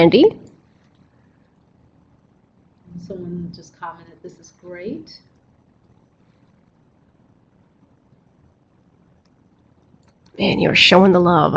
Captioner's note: silence-people typing